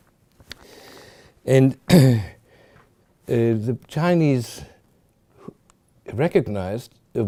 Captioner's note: clears throat